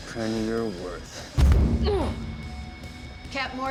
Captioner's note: grunts